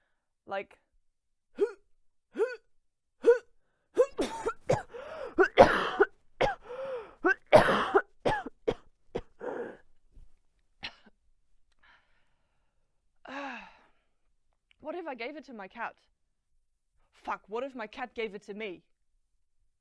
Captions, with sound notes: It's like,- [imitates cough] [real cough] [coughing fit] [clears throat] [breathless exhale] What if I gave it to my cat? Fuck, what if my cat gave it to me?